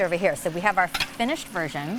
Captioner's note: plates clatter